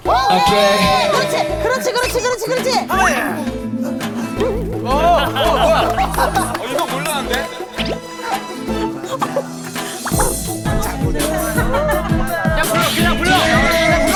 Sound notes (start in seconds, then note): 10.0 murmuring